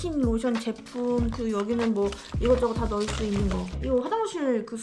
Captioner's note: zipper